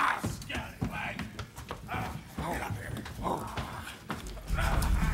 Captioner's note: pirates grunting